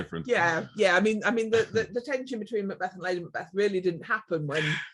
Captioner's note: laughs